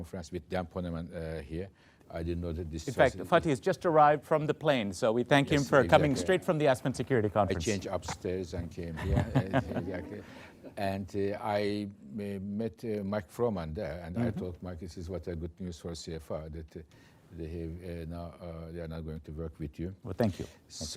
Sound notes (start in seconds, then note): 8.9 laughter; 8.9 laughs